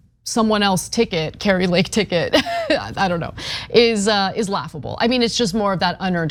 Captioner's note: laugh